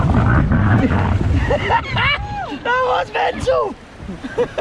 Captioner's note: laughs